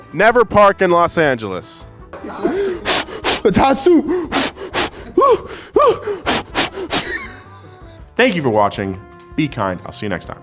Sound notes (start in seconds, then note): 2.4 blowing air; 2.5 hooting; 7.4 laughs